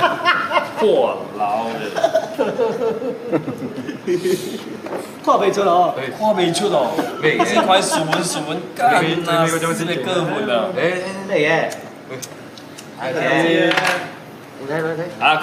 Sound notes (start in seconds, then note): 1.8 laughing and chuckling